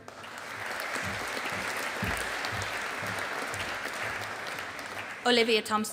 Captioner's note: audience applauding